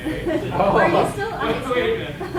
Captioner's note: students laugh